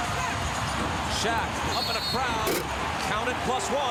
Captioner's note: whistle blows